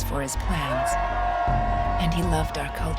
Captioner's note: crowd cheering